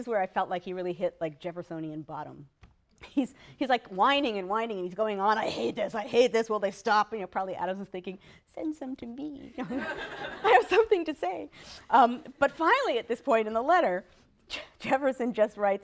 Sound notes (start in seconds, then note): 9.6 laughter